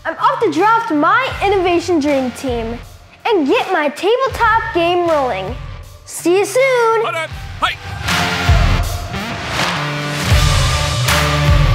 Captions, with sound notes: I'm off to draft my innovation dream team and get my tabletop game rolling. See you soon! (athlete barks instructions) (upbeat music)